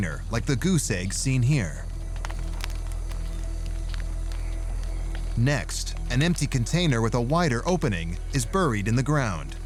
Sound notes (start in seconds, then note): 2.0 fire crackling